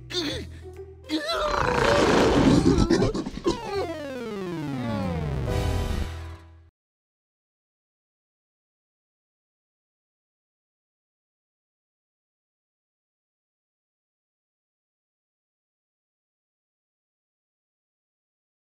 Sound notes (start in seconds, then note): 1.1 moans